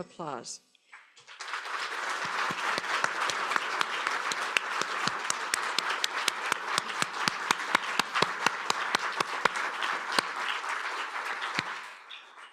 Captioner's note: applause